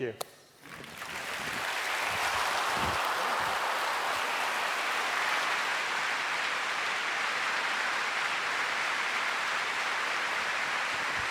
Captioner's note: applause